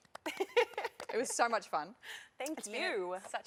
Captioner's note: laughter